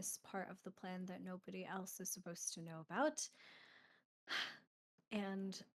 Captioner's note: sighs